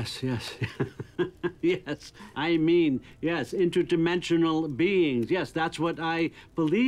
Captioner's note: chuckles